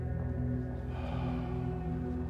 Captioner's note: sighs